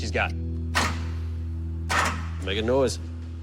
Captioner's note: clicking